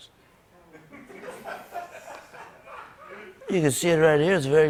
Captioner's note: light laughter